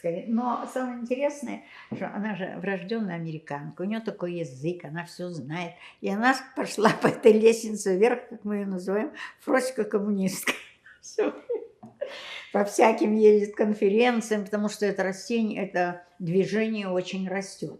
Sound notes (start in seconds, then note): 11.0 laughing